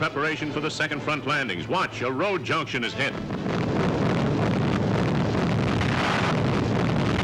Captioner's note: explosions